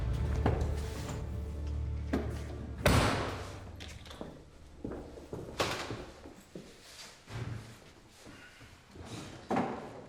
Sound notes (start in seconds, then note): 2.9 closes trunk